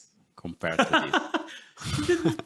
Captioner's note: laughs